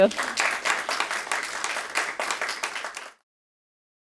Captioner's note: audience clapping